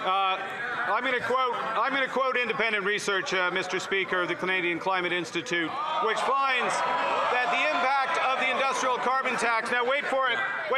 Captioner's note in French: voix de l'interprète